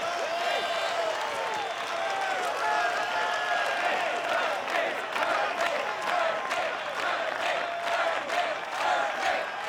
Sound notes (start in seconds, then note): 5.2 people chanting